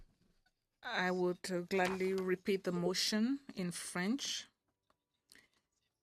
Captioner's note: speaking French